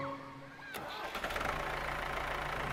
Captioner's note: motor whirring